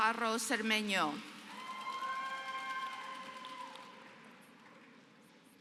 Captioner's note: applause